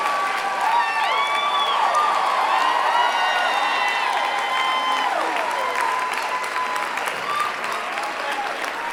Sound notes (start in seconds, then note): 0.6 applause